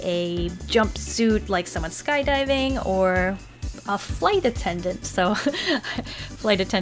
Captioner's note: snicker